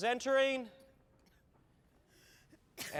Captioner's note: coughing